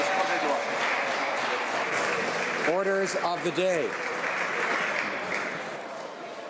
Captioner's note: applause